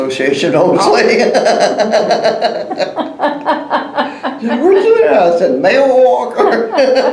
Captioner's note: laughter